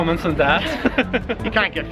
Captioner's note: both laugh